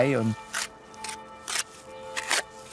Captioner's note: church bells ringing